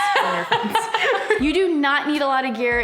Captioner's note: both laugh